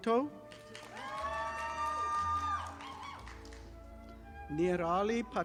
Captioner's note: audience applauding